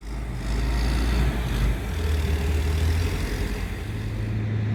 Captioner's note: loud truck noises